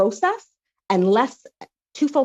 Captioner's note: speaking French